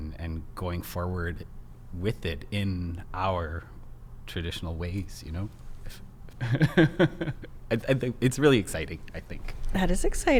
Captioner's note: laughs